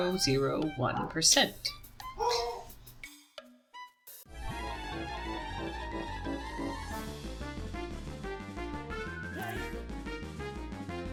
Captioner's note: dog woofs